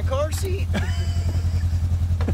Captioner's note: laughing